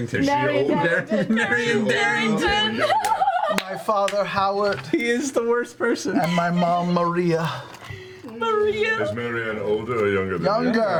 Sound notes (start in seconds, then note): 5.2 laughs